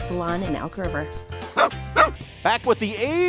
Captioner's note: dog barks